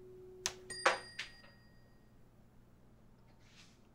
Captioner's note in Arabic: رنين